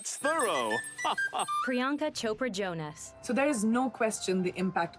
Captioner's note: \laughs\